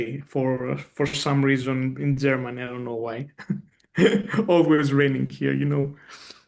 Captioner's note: chuckles